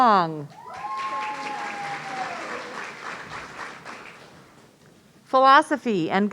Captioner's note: audience cheering